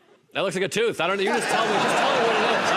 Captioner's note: laughter